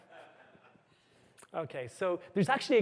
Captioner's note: laughter